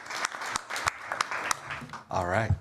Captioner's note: applause